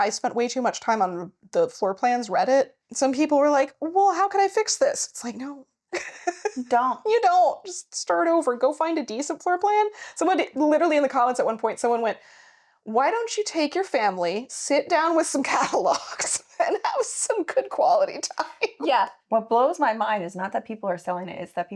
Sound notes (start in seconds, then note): 6.0 laughing